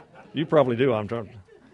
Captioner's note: laughter